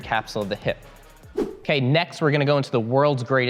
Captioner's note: air whooshing